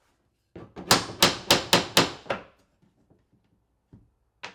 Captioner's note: hammer clunking